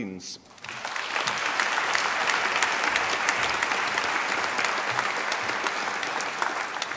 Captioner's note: applause